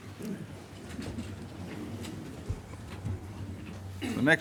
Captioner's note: chairs rustling